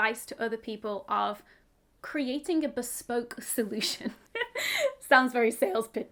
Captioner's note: chuckles